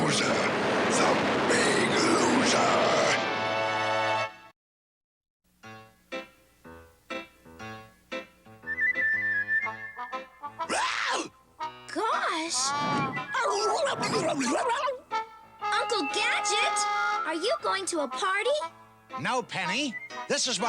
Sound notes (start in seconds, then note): 10.7 brain gasps; 13.4 barking excitedly